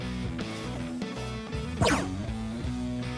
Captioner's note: gunshot